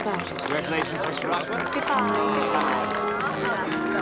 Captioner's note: guests applauding